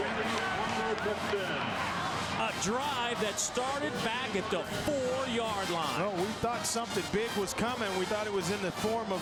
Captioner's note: crowd noise